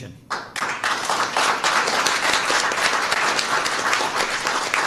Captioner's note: applause